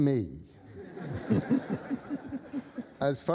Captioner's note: laughter